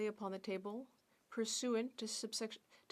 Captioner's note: speaking French